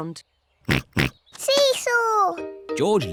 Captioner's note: oinks